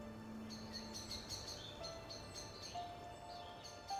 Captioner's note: birds singing